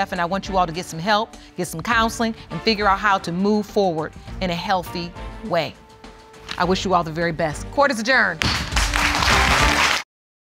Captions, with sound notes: and I want you all to get some help, get some counseling, and figure out how to move forward in a healthy way. I wish you all the very best. Court is adjourned. (AUDIENCE APPLAUDS)